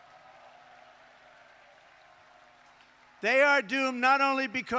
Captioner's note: applause